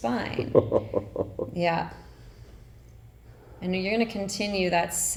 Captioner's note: chuckling